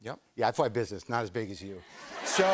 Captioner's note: laughter